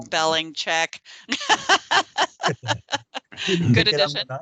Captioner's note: laughing